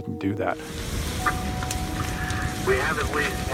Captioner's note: fire flames crackling